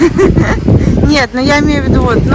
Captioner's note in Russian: смех